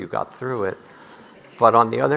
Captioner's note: audience laughing